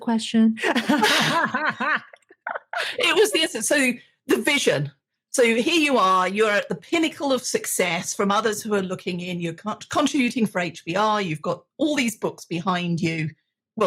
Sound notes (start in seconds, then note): 0.6 both laugh